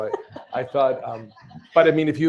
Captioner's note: laughter